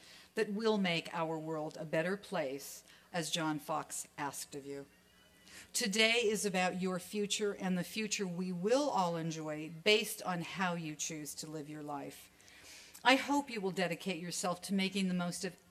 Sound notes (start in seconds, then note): none